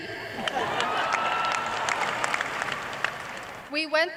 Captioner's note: laughter, cheers and applause